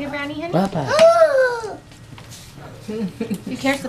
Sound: gasps with delight

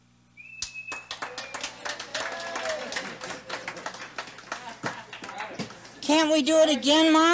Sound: cheering and clapping

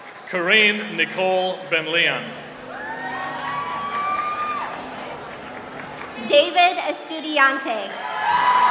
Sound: applause

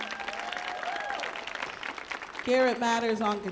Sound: audience cheers

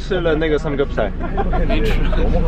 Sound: laughing

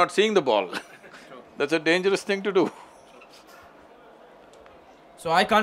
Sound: laughs

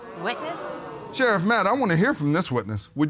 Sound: audience exclaims

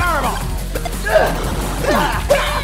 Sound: Anthony grunts; Anthony screeches

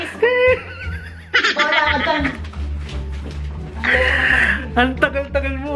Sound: laughing

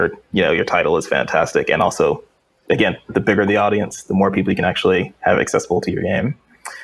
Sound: none

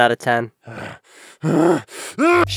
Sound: heavy breathing

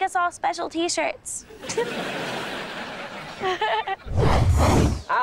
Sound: chuckles

